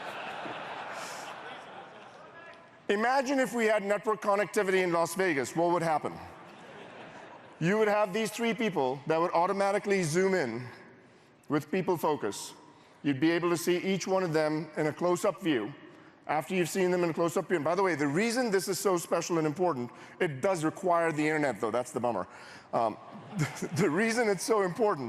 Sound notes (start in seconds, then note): 6.4 laughter